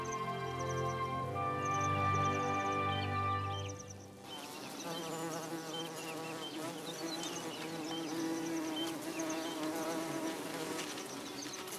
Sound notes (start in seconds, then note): 4.3 buzzing